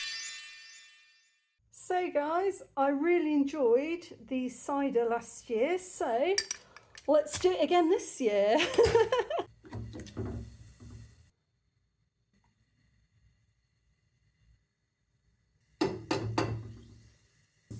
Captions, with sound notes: So guys, I really enjoyed the cider last year. So, let's do it again this year. [laughing]